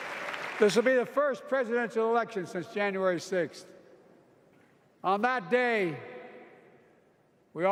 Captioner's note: applause